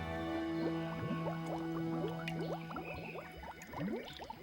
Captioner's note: water babbles